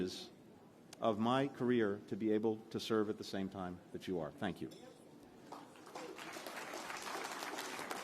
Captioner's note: applause